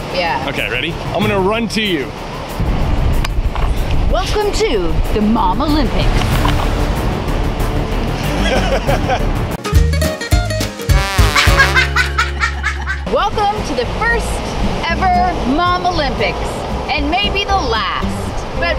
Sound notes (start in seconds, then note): 6.3 dramatic music; 8.2 laughing; 9.7 chipper music; 11.2 children laughing